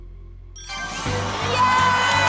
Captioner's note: ding